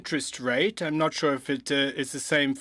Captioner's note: speaking French